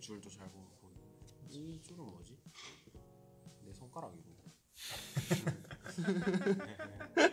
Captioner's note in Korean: 웃음